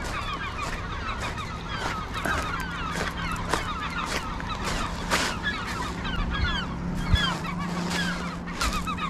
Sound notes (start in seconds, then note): 0.5 walking on rocks